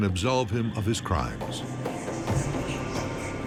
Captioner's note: eerie whispers